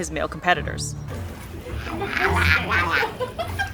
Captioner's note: male sea otter vocalising